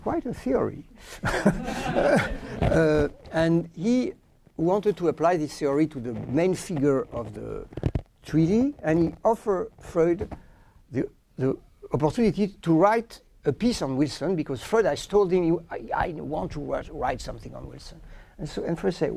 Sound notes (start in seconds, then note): 1.2 laughter